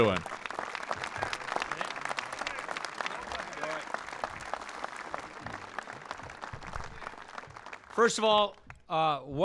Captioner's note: applause